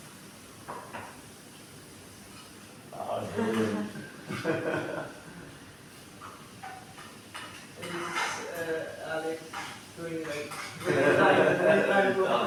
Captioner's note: laughing